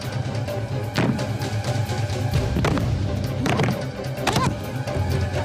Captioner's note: stomping